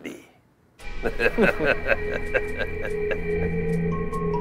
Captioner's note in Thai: เสียงหัวเราะ